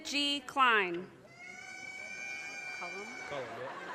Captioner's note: audience cheers and applause